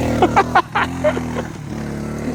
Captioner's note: laughing